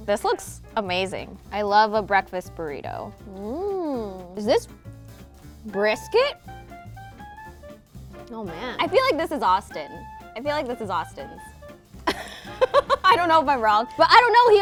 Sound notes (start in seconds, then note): 12.1 laughs